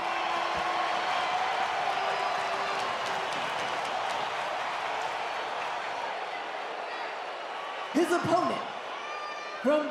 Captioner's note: audience cheering